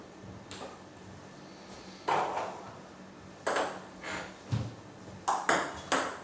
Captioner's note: balls ping pong hitting continues